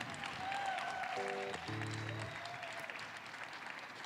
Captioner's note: claps